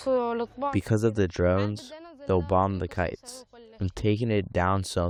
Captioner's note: through translator